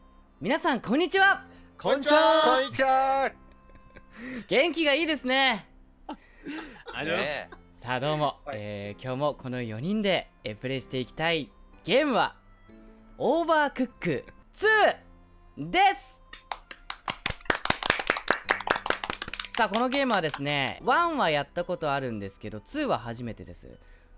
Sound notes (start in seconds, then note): 16.3 clap clap clap